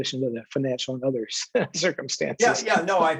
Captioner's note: brief laughter